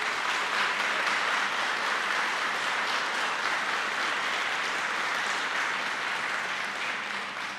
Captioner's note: applause